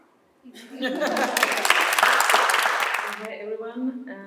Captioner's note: applause